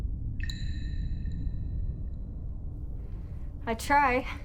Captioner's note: water drips